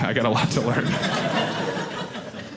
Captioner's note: audience laughing